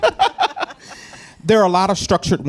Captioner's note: laughs